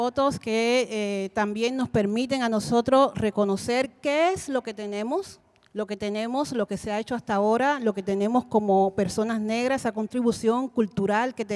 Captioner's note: Spanish language 00:44:12